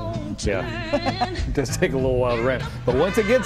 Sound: laughter

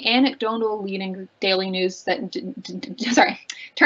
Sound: stammering

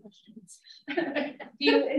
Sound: laughs

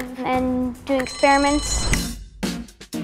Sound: bell ring; upbeat music

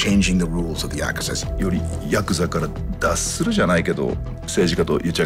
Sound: speaking in japanese

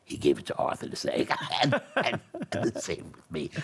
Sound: laughs

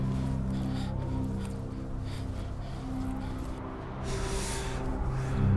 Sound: panting

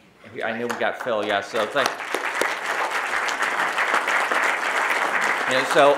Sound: audience applauding

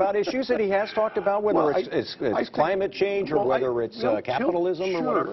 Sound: laughter

